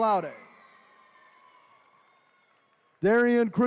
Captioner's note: attendees cheering